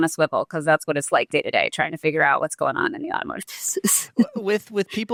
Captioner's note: laughs